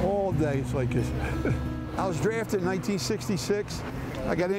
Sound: chuckles

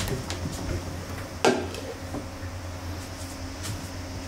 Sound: sound of sliding door opening; sound of tableware being put down

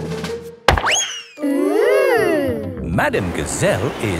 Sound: bang

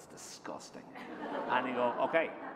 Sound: laughter

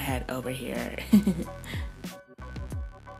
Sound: giggling

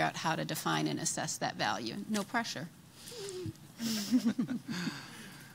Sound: laughing

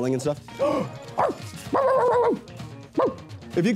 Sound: puppy barking; barking

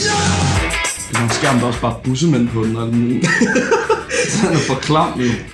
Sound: laughing

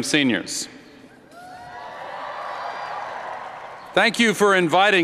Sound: cheers

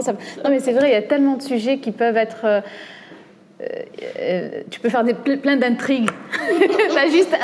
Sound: laughs

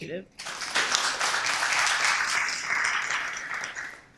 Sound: applause

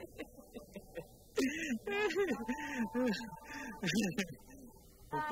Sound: laughs

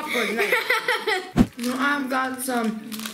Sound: laughing

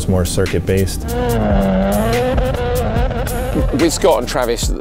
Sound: engine revs

